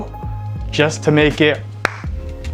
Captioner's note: slap Noise